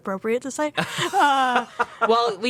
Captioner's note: laughs